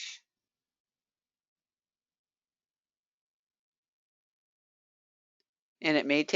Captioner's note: 5 seconds pause